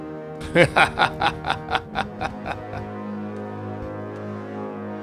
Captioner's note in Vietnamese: Tiếng cười